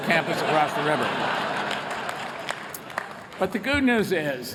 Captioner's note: laughter